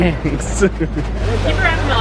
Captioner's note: laughs